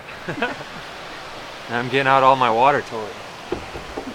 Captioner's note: chuckles